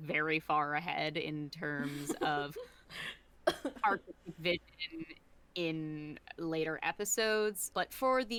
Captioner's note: laughs